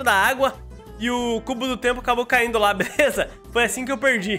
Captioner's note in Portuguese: risos